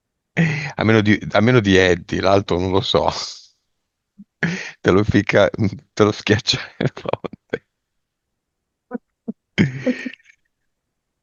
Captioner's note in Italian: risate